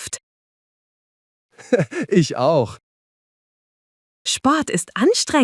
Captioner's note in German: lacht